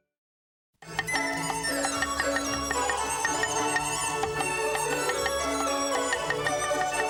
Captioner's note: knife chopping; joyful music